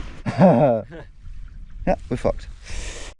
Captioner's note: both laughing